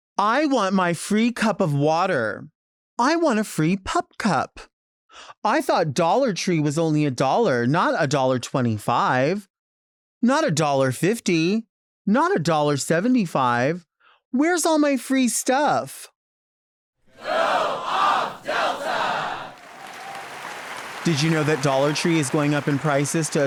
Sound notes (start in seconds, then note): 17.1 crowd; 19.8 audience applauding